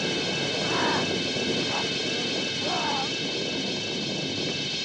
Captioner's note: ghoul growling, grunting